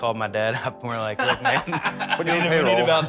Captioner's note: laughs